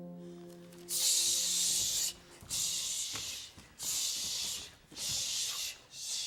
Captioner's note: all breathing rhythmically